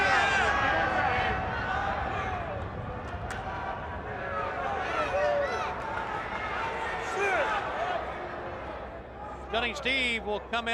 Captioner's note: crowd chatter